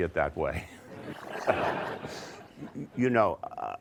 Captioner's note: audience laughter